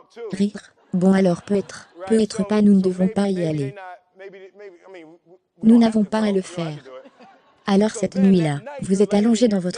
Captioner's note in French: rires